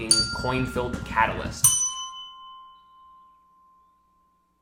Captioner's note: bell dings